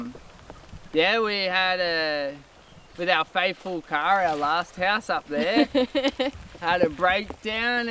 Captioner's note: laughs